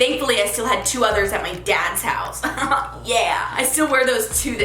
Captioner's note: laughs